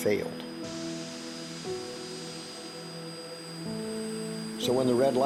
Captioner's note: machinery hissing